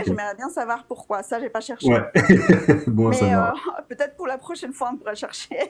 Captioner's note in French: rires; rires